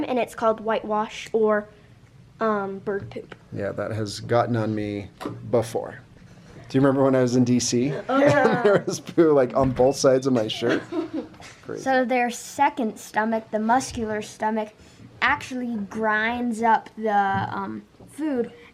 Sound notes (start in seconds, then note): 7.8 laughs; 7.9 children laugh; 8.4 children exclaim; 10.4 children laughing